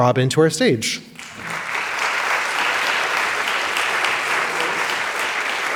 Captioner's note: crowd applauding